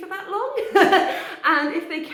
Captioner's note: laughing